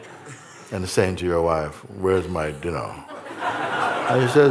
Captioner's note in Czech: smích